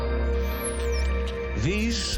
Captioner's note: dolphins whistling